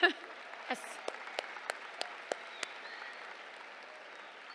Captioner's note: cheers, applause